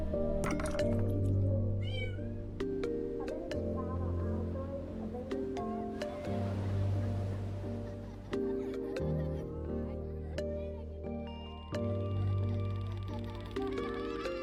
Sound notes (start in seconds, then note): 1.8 cat meowing; 8.2 children laughing; 10.4 gentle music